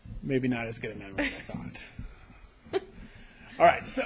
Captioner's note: laughter